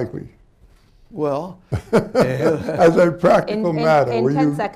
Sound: laughs

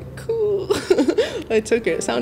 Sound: chuckling

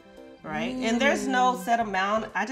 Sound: girls woo

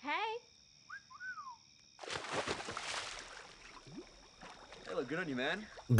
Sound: whistling; water splashing

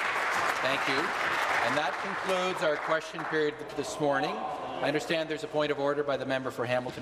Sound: applause

